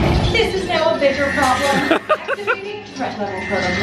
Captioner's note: laughs